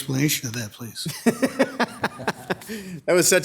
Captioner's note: laughing